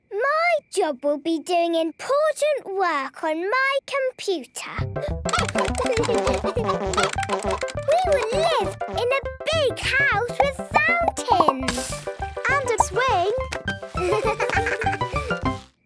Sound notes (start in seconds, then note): 5.2 keyboard tapping; 5.2 computer game chickens clucking